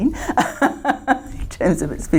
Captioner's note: laughter